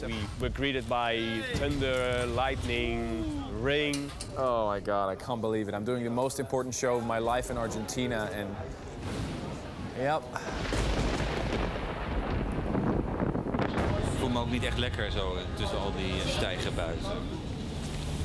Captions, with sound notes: and we were greeted by thunder, lightning, rain. - Oh my god, I can't believe it, I'm doing the most important show of my life in Argentina, and yep! (Thunder crashing) - (speaks in foreign language)